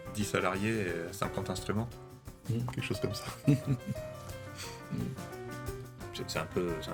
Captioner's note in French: rires